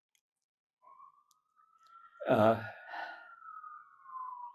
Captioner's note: sirens